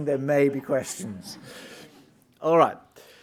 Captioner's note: audience laughing